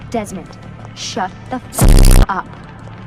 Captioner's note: glitch